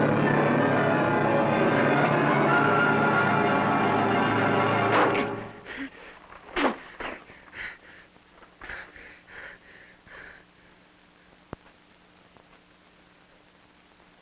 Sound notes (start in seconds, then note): 5.2 deep panting; 5.2 heavy grunting